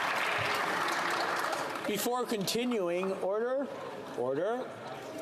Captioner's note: some Applause